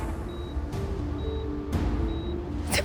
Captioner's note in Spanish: Sollozos